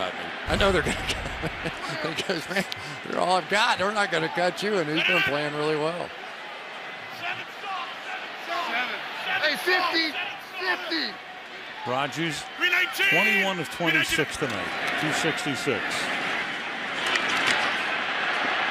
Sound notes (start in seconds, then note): 0.7 laughs